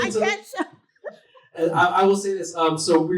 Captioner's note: chuckles